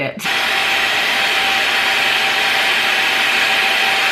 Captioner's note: hairdryer whirring